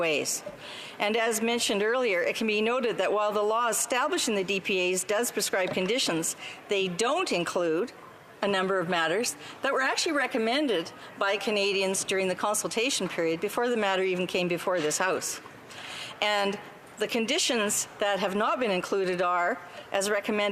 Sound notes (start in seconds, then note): none